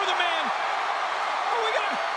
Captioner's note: spectators cheering